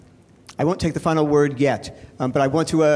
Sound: male Voice

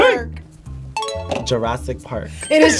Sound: bell rings

